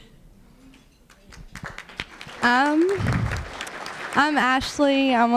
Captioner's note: applause